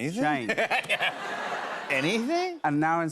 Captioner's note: laughs